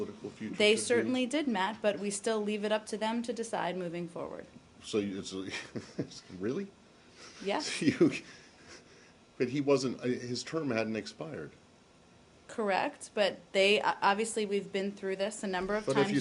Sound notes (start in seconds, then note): 5.5 laughter